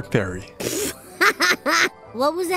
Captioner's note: laughter